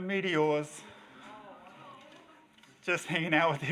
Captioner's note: audience reacts